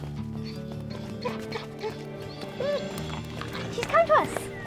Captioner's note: whimpering